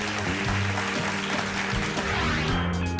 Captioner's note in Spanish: Aplausos